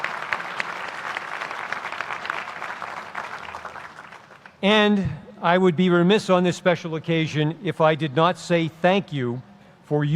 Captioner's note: applause